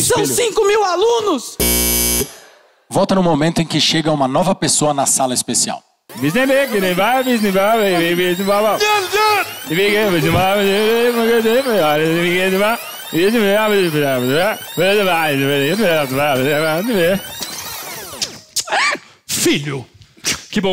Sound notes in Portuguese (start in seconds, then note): 2.0 campainha; 6.1 fita rebobinando